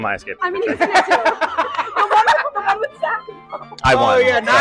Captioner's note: laughing